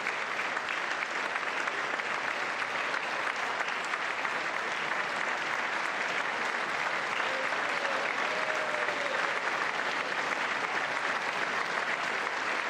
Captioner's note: cheers and applause